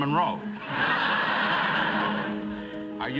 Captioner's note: laughter